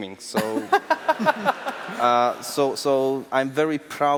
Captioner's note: laughs